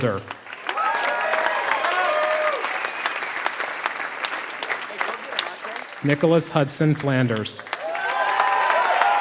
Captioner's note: applause